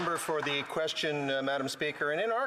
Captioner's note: some Applause